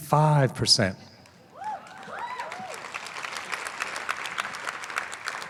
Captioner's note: applause